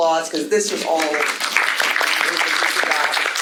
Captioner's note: audience applauding